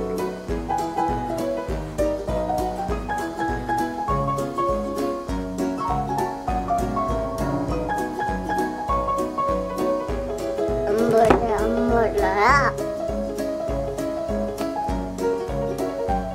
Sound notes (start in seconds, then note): 10.8 toddler babbling